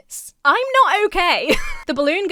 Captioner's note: Emma chuckles